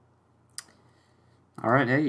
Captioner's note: lip smack